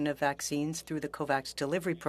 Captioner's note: speaking French